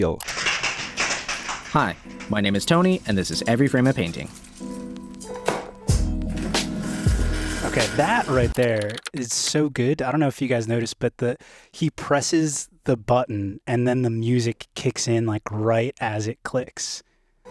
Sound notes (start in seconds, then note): 0.0 film clicking; 4.6 bright music; 6.2 tape whirring